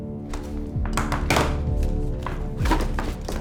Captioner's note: gun thudding; cash rustling